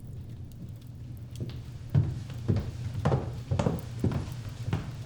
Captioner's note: footsteps thudding